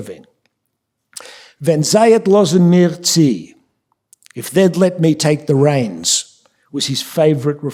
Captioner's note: speaking yiddish